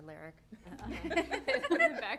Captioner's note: laughter